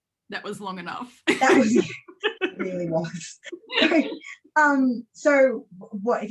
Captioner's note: laughs